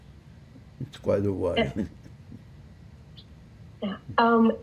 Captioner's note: laughing